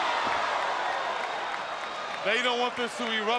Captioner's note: crowd cheering